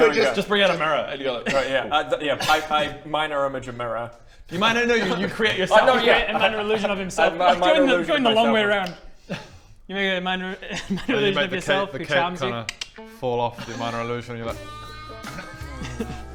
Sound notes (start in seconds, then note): 12.6 click click; 13.5 sexy music